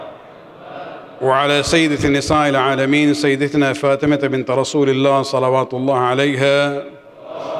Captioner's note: arabic